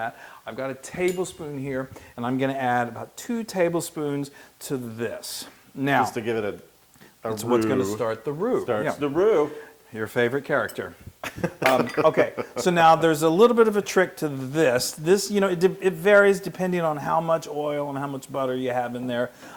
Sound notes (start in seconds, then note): 11.2 laugh